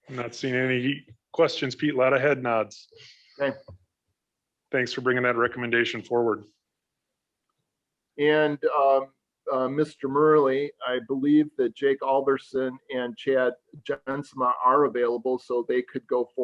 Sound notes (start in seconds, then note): none